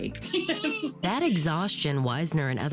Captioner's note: laughs